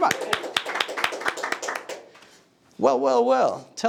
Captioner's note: audience applauding